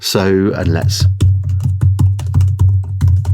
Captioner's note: typing